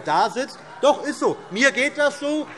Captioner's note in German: Zuruf